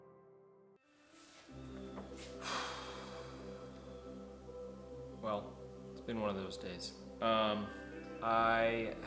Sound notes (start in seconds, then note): 2.1 heavy sigh of frustration